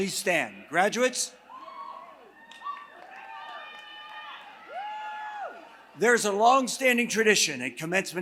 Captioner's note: applause